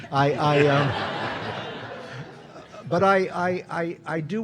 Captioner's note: audience laughing